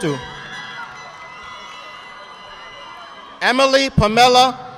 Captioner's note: audience applauding